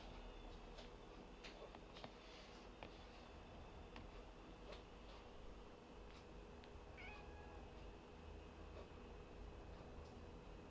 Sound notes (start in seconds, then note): 6.9 cat meowing